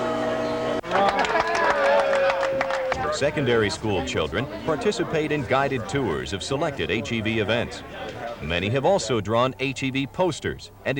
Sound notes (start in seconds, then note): 0.8 cheers; 0.8 applause; 7.2 congested speaking